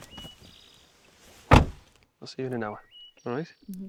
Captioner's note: door clicking